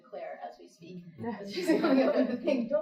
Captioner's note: laughing